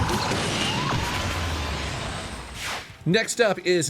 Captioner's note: police sirens blaring; vehicle crashing